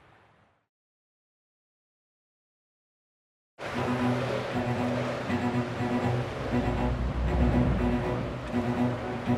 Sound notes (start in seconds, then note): 1.8 waves rushing